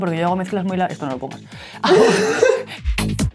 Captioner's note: laughs